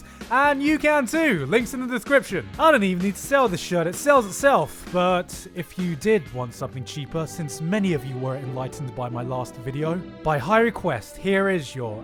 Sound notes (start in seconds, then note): none